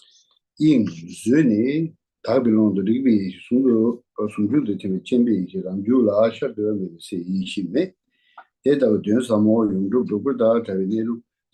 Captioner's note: reading the Tibetan text